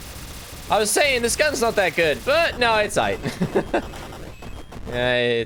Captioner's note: laughs